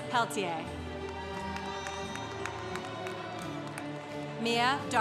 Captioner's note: congregation applauding